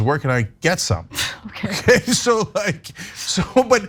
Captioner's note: laugh